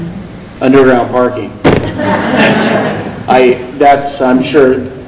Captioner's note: laughing